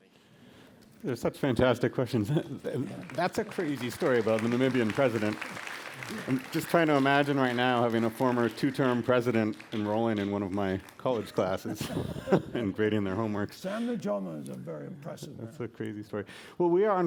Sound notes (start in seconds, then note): 2.3 applause; 11.6 laughter